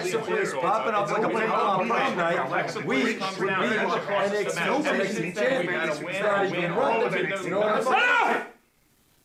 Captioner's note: arguing